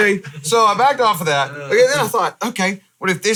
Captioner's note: all laughing